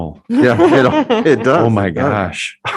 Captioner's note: board members laughing